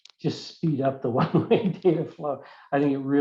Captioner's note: laughs